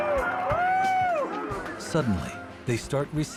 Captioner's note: cheering